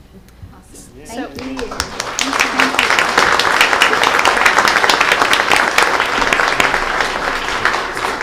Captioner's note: applause